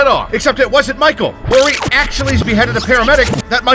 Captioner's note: tape rewinding